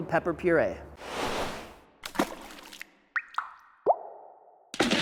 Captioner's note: sauce splashing